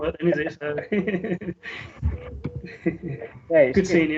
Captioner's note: audience Laughs